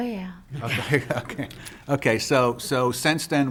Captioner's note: chuckles